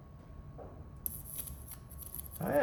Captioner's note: electricity zapping